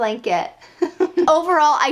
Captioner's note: laughing